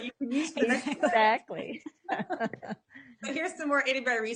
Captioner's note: chuckles